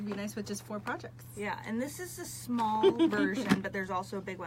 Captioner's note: laughs